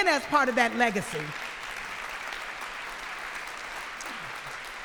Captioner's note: applause